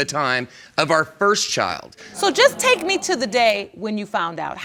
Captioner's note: audience gasps